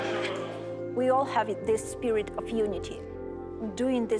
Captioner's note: speaking English